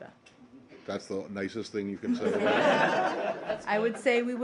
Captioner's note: laughter